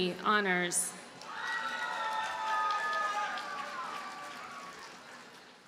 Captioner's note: audience cheers and applauds